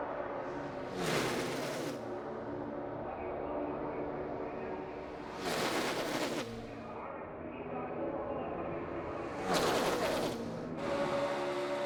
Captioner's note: engines roar